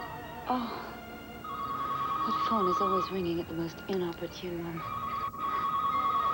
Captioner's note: telephone rings